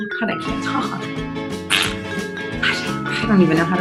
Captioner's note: cheerful music; mouth noise